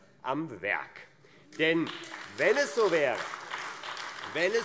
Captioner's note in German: Beifall AfD - Zuruf BÜNDNIS 90/DIE GRÜNEN